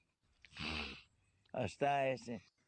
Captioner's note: growl